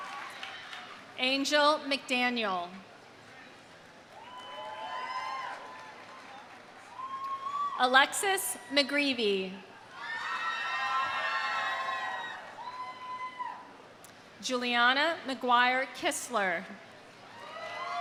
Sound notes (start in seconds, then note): 0.0 audience applauding; 0.0 audience cheering; 4.1 audience applauding; 4.1 audience cheering; 9.9 audience cheering; 17.3 audience cheering; 17.4 audience applauding